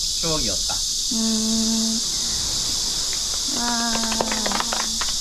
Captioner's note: cheering